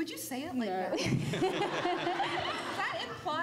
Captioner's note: laughs